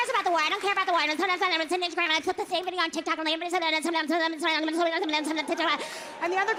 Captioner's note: speaking gibberish